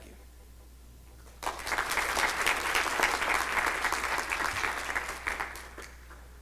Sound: clapping

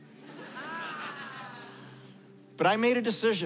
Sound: laughter

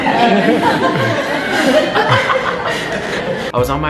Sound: crowd laughing

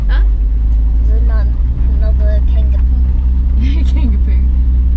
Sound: chuckles

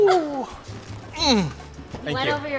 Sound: grunts

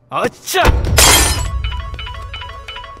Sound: phone rings

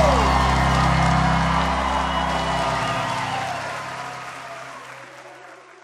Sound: congregation cheering

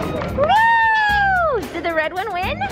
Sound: cheers

